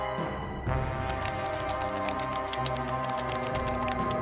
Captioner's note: keys typing